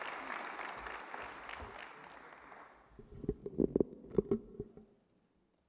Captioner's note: applause